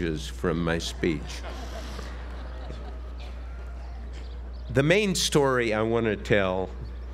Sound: laugh

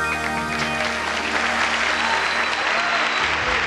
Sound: audience applauds

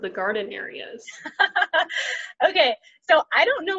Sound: laughs

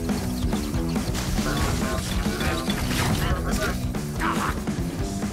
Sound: robotic voices

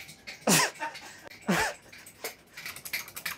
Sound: both laugh

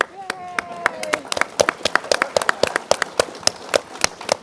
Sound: applause

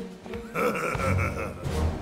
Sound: laughs

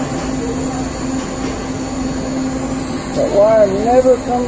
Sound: welding torch sizzling

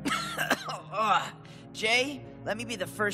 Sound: coughing

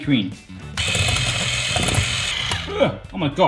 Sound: whisk whirring

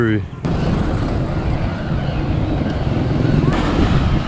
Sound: engine roaring

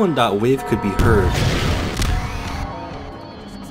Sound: gun blasting; clock squealing

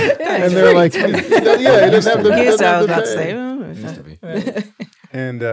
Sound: laughing

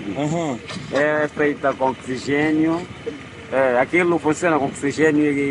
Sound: speaking Portuguese

